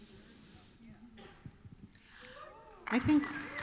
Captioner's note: applause